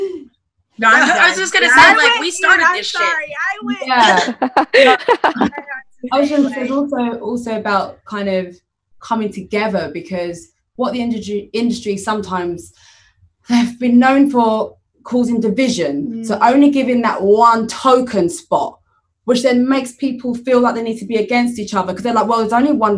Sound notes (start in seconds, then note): 3.9 laughter